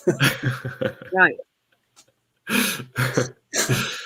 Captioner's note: laughs